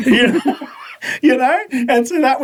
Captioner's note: laughing